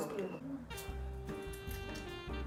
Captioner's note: cutting intensely